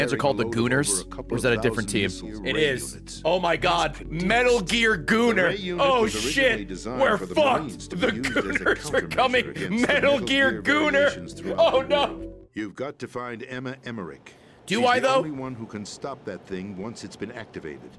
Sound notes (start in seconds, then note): 11.5 laughs